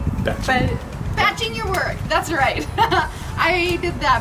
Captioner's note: laughs